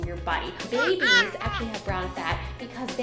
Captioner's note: baby cries